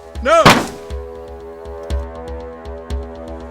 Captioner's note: gun fires